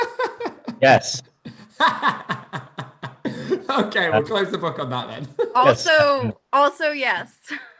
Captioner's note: laughs